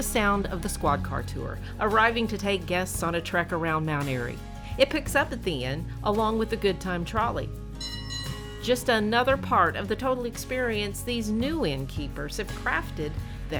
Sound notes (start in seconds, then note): 7.8 bell ringing